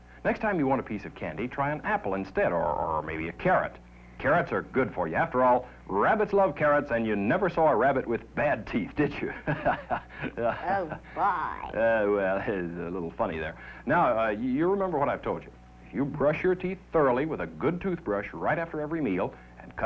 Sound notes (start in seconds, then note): 9.5 laughing